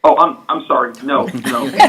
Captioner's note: laughter